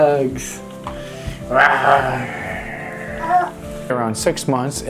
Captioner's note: growls